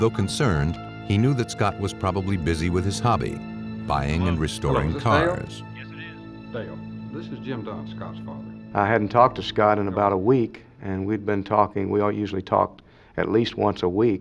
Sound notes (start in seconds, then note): 5.7 on phone